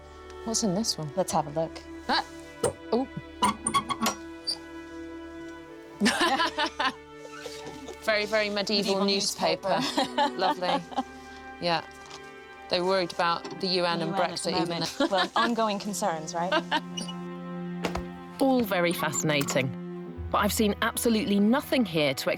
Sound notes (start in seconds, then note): 6.0 laughs